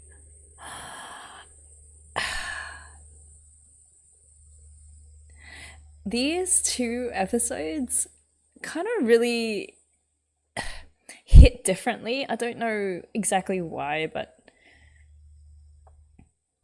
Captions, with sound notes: [sighs] These two episodes kind of really... hit differently. I don't know exactly why, but -